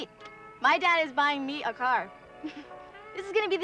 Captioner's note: chuckles